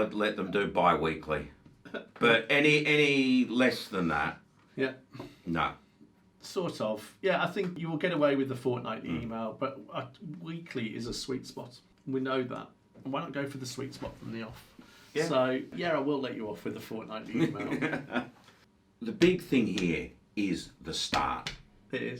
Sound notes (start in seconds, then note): 17.3 chuckles